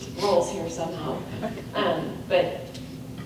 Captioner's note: laughs